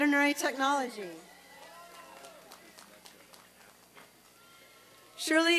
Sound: applause and cheering

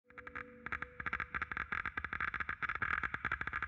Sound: dosimeter crackles

